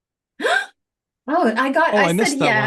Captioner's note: gasps